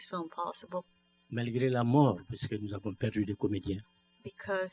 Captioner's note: speaking french